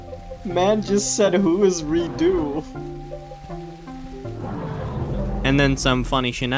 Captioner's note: laugh